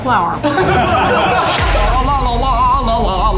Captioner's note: laugh